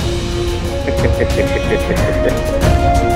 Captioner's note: Karan giggling